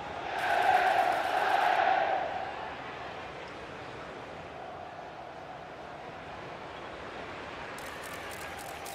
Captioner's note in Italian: Applauso